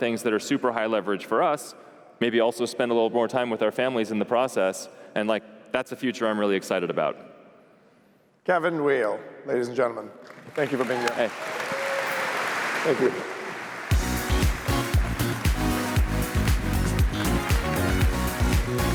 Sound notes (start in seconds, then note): 13.3 applause